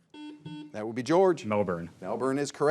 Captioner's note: signal beeps